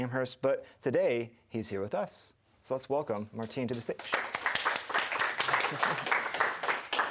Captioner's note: clapping